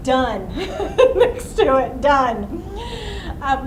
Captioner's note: laughs